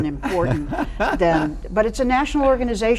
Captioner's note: chuckling